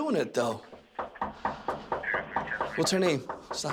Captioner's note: suspect knocking